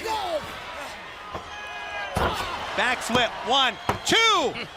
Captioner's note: crowd chatter